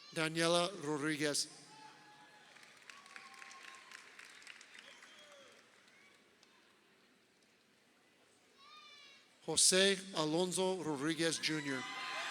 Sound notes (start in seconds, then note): 1.8 crowd cheering